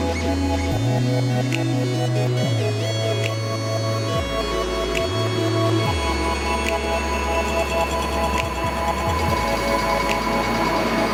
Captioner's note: subway noise